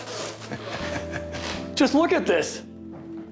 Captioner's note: Jay laughs